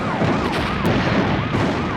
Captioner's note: car alarm wails; car bangs; roofs bang